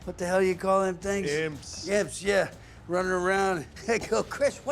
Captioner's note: laughs